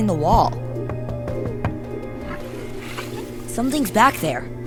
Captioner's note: rapid knocking